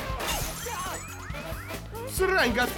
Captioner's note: gunshot